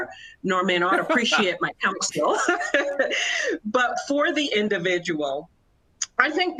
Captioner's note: laughter